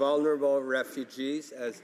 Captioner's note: none